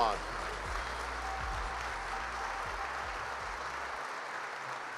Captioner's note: applause